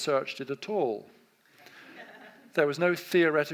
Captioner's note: audience laughs